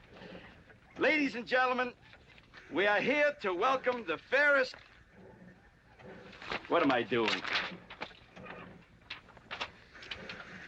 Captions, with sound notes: Ladies and gentlemen, we are here to welcome the fairest... What am I doing? (paper rustling)